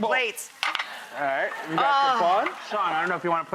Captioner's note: laughing